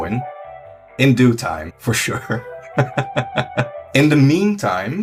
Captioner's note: laughs